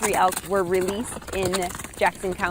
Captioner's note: feet patter rapidly